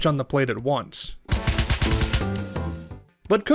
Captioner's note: punchy sound effects